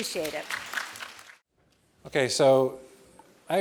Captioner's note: applause